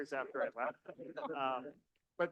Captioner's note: audience laughing